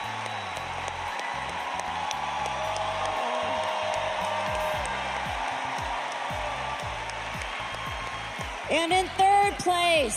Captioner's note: cheers and applause